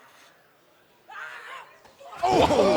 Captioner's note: Asuka snarls